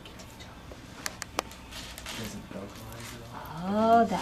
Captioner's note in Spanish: Conversaciones de fondo